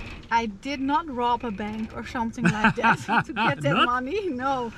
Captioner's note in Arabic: يضحكان